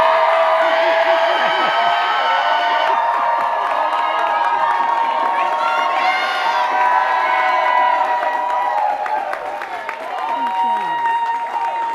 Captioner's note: cheers and applause